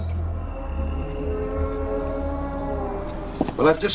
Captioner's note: groaning